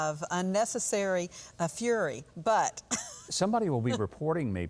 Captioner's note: laughs